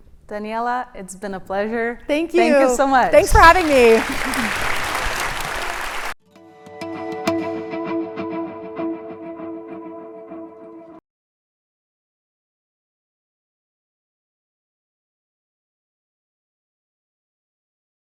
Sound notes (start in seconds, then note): 3.2 cheering and applause; 6.8 upbeat music; 13.0 silent